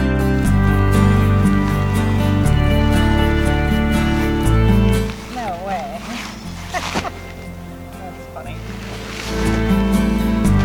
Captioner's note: laughing